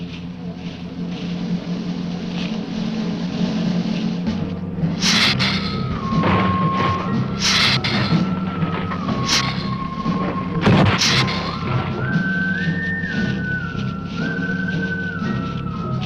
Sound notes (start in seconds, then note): 5.0 lizard hissing; 6.2 ground rumbling